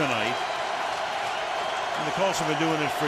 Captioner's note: cheering